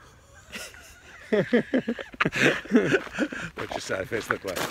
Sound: laughs

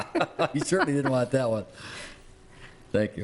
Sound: laughing

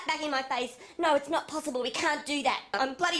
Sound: mimicking her

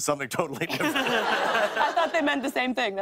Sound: laughter

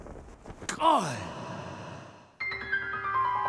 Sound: echoing; woeful music

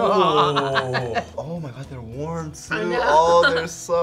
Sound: laughs; laughs

